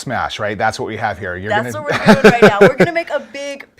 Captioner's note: laughing